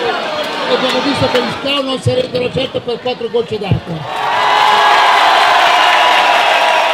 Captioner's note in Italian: Applauso